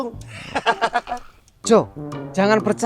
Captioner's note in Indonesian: Sogek terkekeh